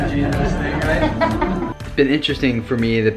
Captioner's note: laughter